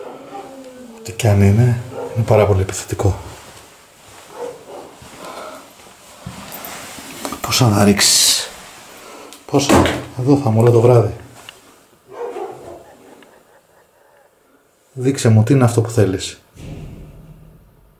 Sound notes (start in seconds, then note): 0.0 ecclesiastical psalmody; 12.6 evil laughing